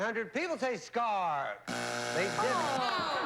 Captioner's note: buzzer